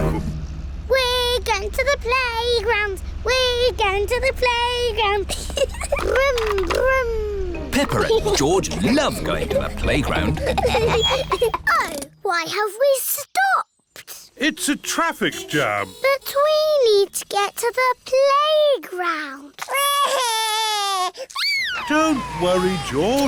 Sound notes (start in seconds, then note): 5.2 giggles; 15.1 horns toot; 19.6 crying